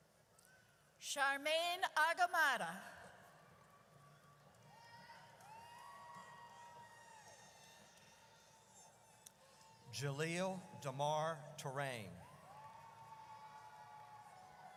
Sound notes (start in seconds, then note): 4.7 audience cheers; 12.2 audience cheers